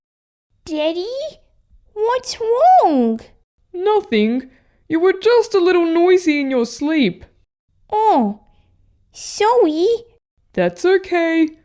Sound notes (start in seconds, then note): none